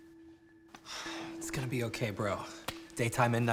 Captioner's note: sighs